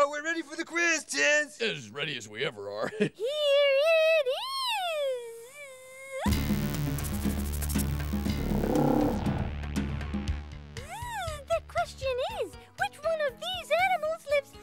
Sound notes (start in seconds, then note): 6.3 dramatic music; 8.2 roaring